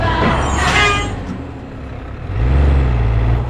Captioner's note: engine revving